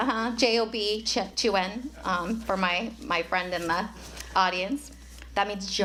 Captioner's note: speaking chinese